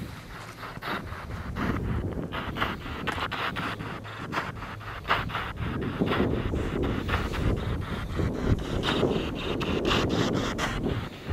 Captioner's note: radio noise from the spirit box